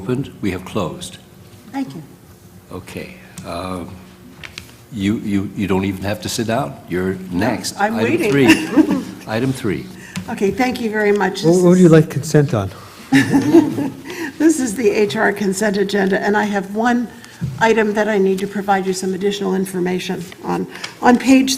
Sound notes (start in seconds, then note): 13.1 laugh